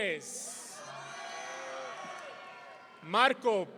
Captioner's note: audience cheering